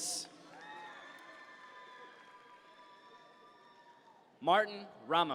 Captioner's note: audience members cheer